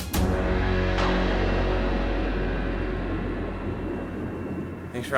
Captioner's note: thunder booming